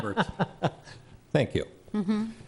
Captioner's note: laughing